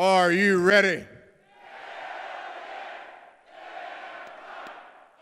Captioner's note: chanting indistinctly